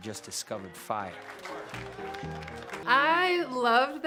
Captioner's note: applause